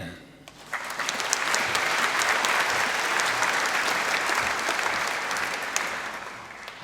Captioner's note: applause